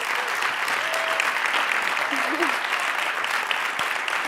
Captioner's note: audience applauding